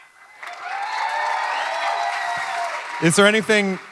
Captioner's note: audience clapping and cheering